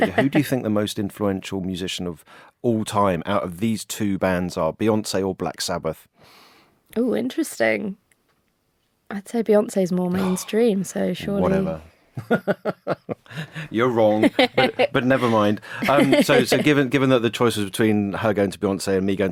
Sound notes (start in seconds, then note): 10.1 sighs; 12.2 laughs